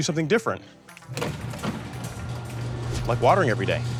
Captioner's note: garage door grinding